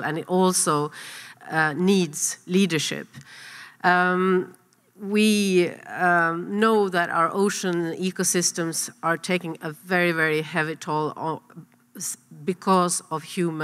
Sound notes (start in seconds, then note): none